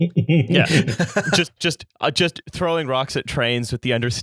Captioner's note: laughter